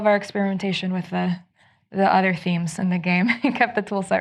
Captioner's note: chuckles